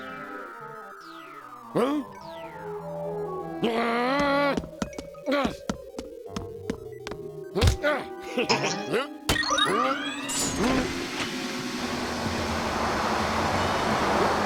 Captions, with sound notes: HUH? (growls) UH. UH. (giggles) HUH? (suction hissing)